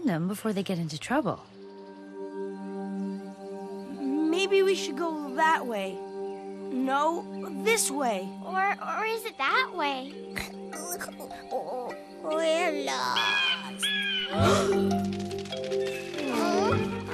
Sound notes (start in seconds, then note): 10.8 whimpers; 12.6 bird squawks; 14.4 terrified gasps; 14.7 clatter of little feet